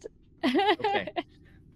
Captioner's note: laughs